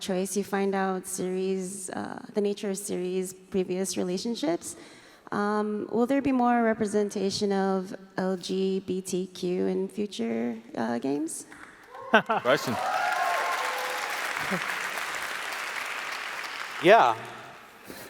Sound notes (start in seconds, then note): 11.9 applause